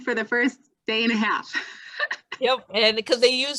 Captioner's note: laughter